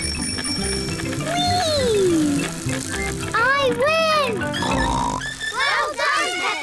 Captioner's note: rings bell; snorts